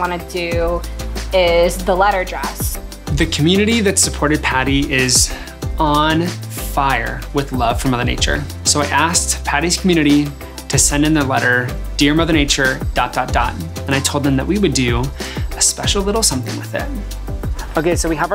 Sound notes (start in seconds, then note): none